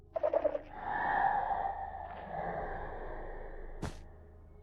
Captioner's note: shreiker noise